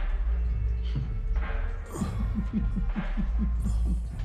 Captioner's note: chuckles